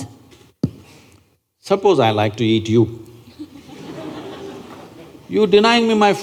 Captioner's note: laughter